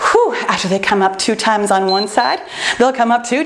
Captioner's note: timer beeps